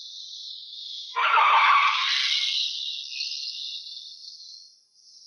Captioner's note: car wheels screech